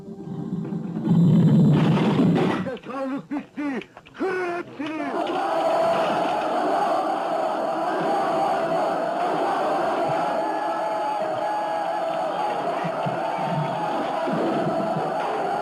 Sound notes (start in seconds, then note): 1.7 wood shattering; 5.8 crowd chanting in Arabic; 11.0 crowd shouting